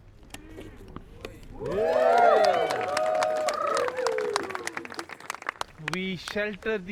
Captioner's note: cheers & applause